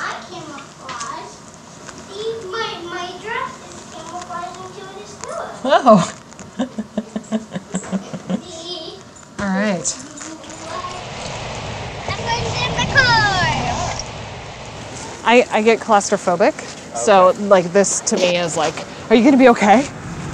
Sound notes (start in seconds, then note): 6.5 chuckles